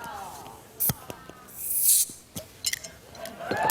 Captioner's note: fizzing; cheers and applause